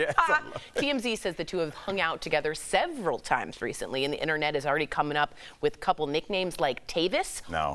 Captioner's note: laughter